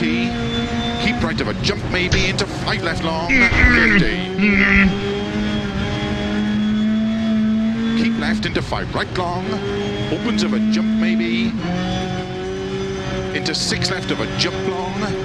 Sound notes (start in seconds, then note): 3.2 angry groan